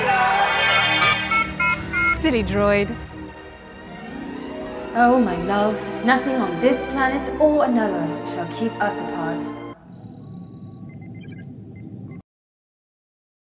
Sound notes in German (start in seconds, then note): 0.2 roboter-piepen; 10.8 elektronisches piepen